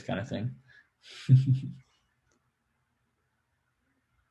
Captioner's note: laughs